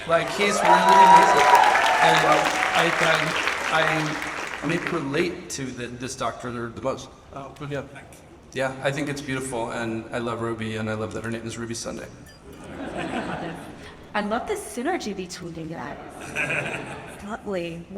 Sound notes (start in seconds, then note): 12.5 audience laughs; 16.3 laughs